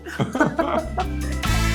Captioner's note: both laughing; peppy music